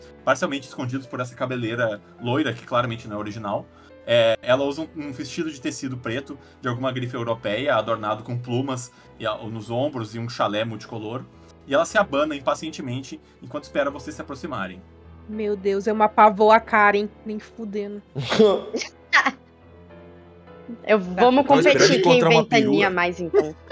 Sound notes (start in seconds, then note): 18.2 laughs